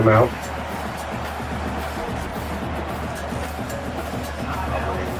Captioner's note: crowd Noises